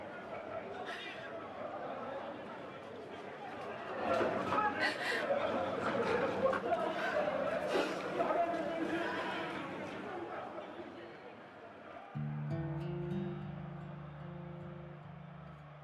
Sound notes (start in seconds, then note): 0.3 people yelling in foreign language; 12.1 somber acoustic guitar music